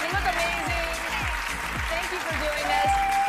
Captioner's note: applause